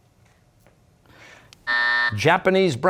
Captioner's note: buzzer